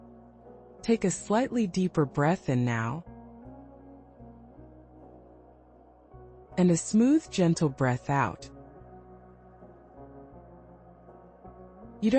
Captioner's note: pause